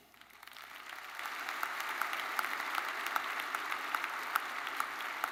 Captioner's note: attendees applauding